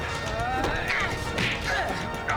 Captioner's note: punch